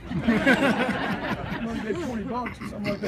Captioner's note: laughter